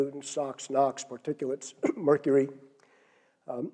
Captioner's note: cough